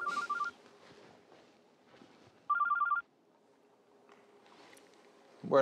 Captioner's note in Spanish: Suena el celular